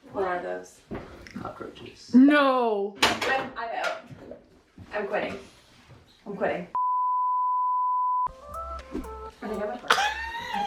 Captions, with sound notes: - What are those? - Cockroaches. - No! - I'm out, I'm quitting, I'm quitting. (electronic beeping) (upbeat music) - I think I might barf.